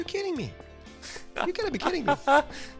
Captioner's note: laughing